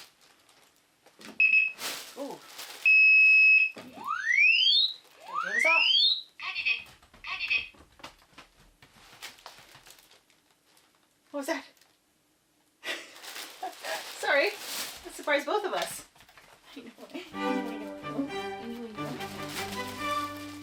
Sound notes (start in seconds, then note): 1.4 beep, beep; 2.9 long beep; 5.1 siren